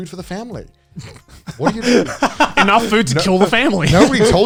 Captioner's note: laughs